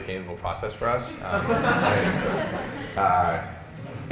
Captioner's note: laughter